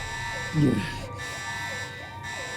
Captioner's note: moans